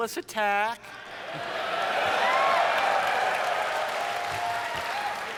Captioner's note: audience cheers